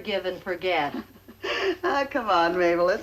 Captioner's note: laughing